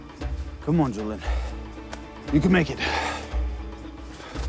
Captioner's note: sighs; Julian panting